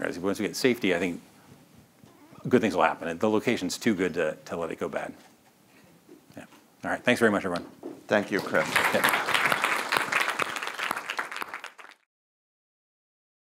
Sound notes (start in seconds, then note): 8.3 audience applauding